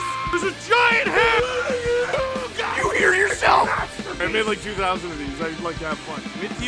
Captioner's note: Harry potter screaming; screaming